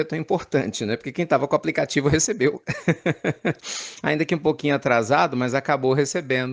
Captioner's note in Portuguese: risos